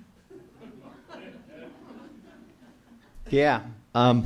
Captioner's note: audience laughs